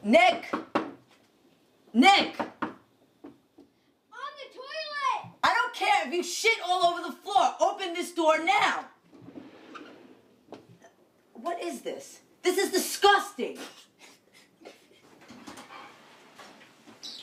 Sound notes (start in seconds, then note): 13.6 laughing